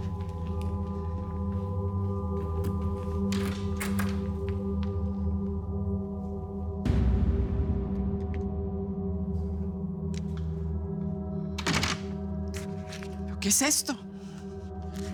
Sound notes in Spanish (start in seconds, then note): 3.2 ruido al abrir la puerta; 13.2 ruido al cerrar